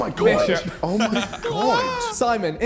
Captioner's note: laughs; men exclaiming